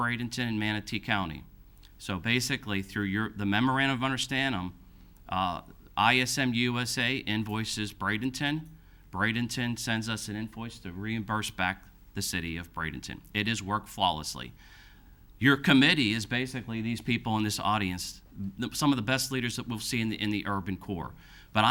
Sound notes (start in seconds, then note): none